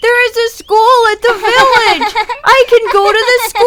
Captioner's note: Acela giggling